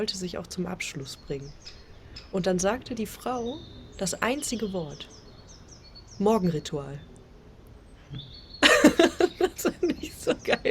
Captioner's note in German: gelächter